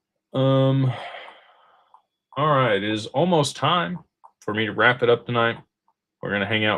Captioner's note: sighs